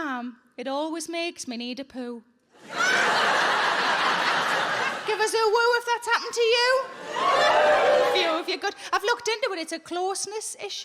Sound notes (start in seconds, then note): 2.6 audience laughing; 7.1 scattered wooing